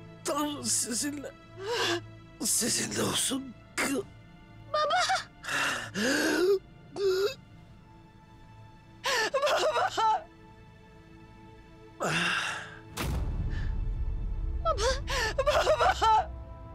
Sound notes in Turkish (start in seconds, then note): 5.4 Nefes sesi; 5.4 Derin nefes sesi